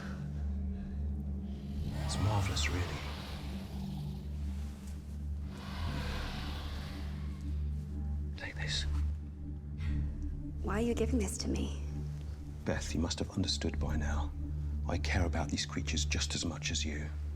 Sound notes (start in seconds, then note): 4.4 dinosaurs growling